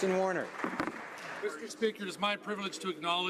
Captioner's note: applause